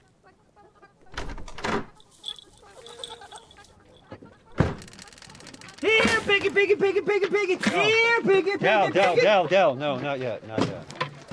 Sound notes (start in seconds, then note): 1.1 door latch clanks; 2.0 cat bell jingles; 4.4 screen door creaking; 4.5 door heavily slams